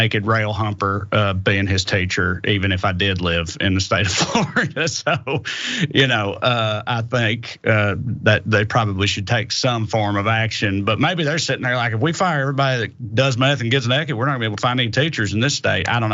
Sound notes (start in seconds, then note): 4.0 laugh